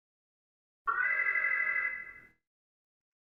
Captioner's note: alarm